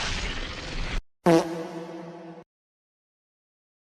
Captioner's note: fart